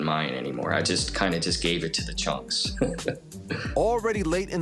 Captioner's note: chuckles